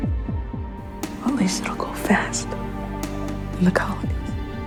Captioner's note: voiceover